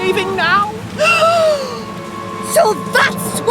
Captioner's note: Dilys Gasps